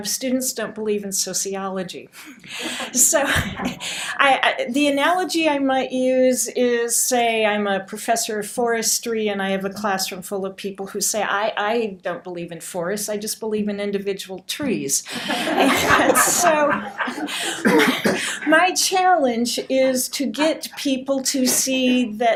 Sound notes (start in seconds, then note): 2.4 laughter; 15.1 laughter